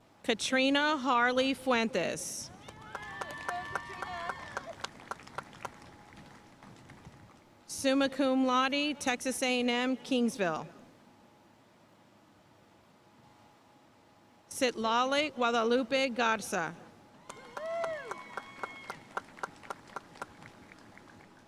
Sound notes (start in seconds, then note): 2.6 audience cheering and applauding; 2.6 audience cheering drowns out speaker; 17.2 audience cheering and applauding